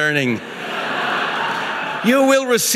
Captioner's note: audience laughing